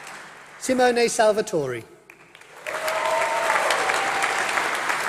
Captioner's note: applause